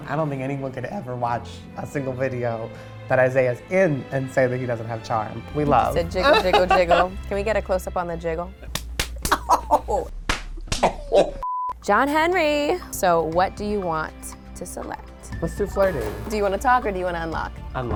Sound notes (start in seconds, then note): 9.2 laughs; 11.4 beep